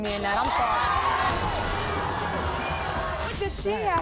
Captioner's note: crowd shouting